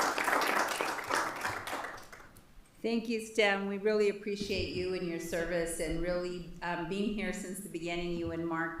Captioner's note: applause